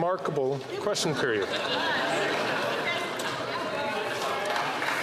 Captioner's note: some Applause